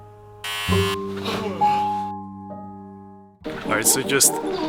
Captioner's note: water running; razor buzzing; yawning